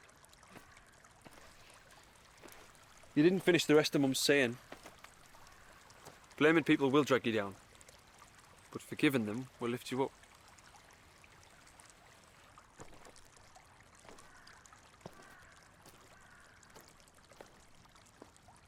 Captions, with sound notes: You didn't finish the rest of Mum's saying. "Blaming people will drag you down. but forgiving them will lift you up." (water trickling)